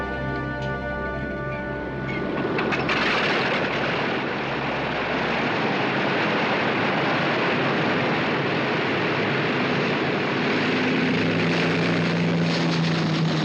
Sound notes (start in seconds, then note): 2.7 engine whirring